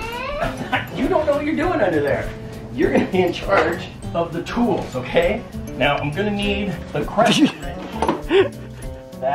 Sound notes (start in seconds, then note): 0.3 laughs; 8.2 laughter